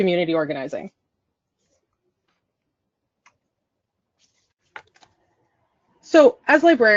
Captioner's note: silence